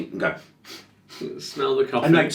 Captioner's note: sniffing